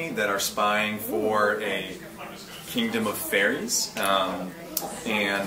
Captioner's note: none